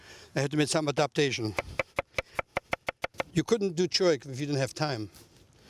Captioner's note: chopping